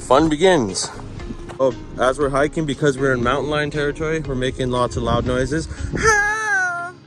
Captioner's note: makes wounded girl noise